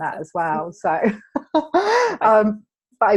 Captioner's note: laughing